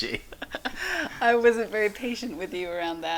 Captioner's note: both laughing